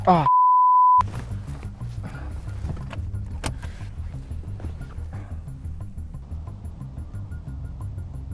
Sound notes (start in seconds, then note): 3.6 beep; 5.6 suspenseful music